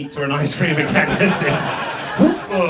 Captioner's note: audience laughs